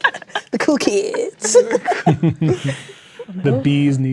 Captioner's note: players laughing